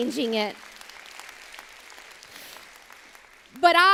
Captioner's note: applause